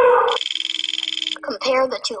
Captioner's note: elephant trumpeting; wheel clicking; voiceover